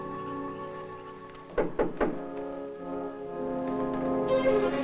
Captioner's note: knocking on door